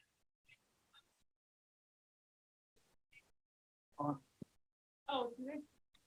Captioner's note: silence